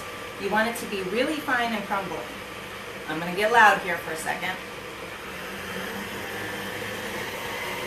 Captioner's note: turns speed up, and mixer gets loud